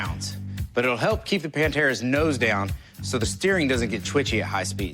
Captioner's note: none